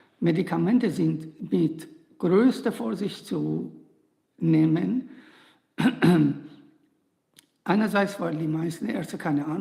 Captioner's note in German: räuspern